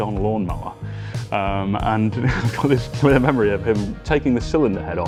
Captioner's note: chuckles